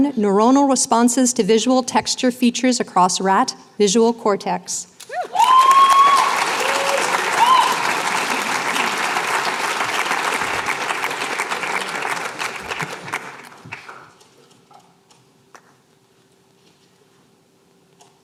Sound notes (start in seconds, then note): 5.0 applause, cheering